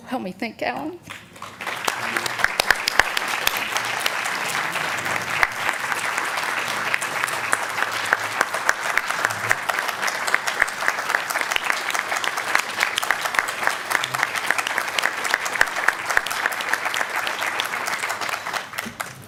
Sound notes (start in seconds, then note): 1.8 applause